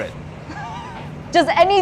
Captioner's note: chuckling